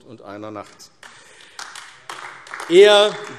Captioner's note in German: Beifall AfD